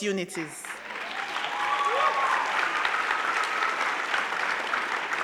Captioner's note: crowd clapping; crowd cheering